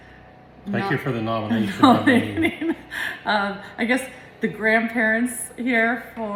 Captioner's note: giggles